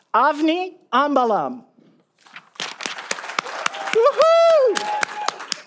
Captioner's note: audience applauding